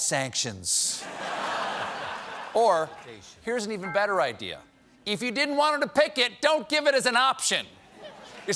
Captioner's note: laughter